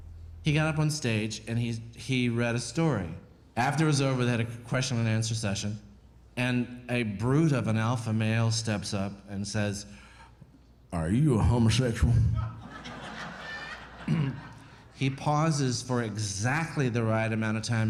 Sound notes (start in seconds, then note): 12.2 crowd laughing; 14.0 clears throat